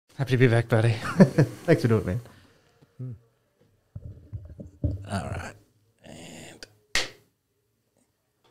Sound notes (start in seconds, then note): 1.0 laughter